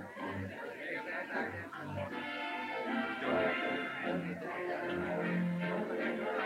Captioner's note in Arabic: ثرثرة الناس; موسيقى هادئة مستمرة